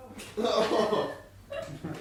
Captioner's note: laughter